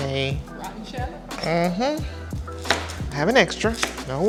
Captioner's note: humming affirmatively